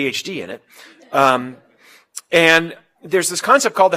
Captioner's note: laugh